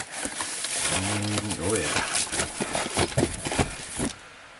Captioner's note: plastic rustling